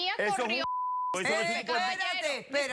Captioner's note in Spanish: Bip